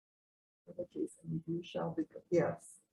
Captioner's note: murmurs